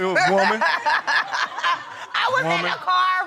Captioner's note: laughing